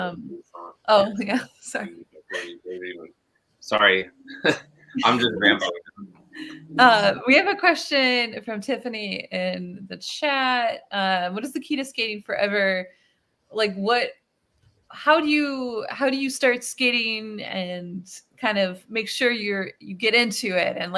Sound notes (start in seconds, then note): 1.7 laughs; 5.0 laughs